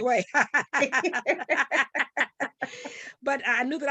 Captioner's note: laughing